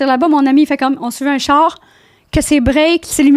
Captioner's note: in french